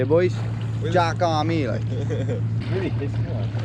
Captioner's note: laughs